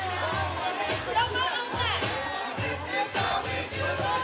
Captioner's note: chatter